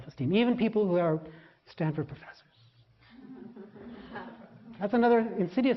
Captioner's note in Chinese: laughter; 笑聲